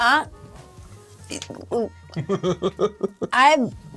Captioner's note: muttering, giggles